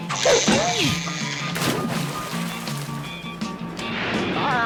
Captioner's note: water splashes